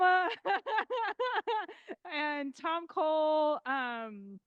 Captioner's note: laughing